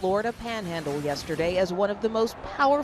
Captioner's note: sound of wind